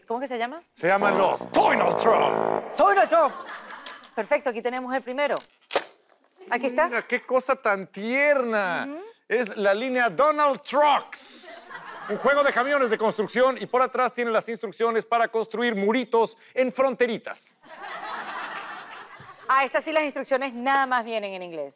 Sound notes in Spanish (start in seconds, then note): 17.6 Risas